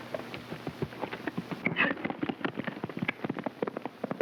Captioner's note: hooves clopping